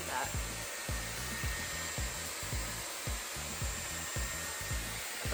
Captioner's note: brush whirring